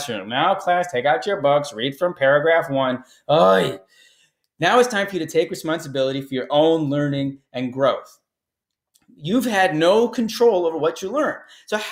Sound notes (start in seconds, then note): 3.3 scoffs